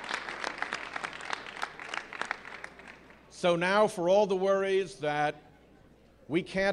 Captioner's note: cheering and applause